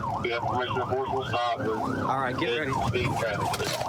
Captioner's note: warning sirens